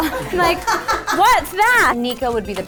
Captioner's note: laughing in background